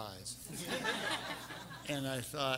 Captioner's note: everyone laughing